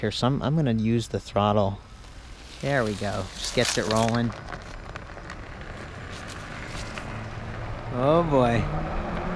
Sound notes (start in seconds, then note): 4.2 tires turning on asphalt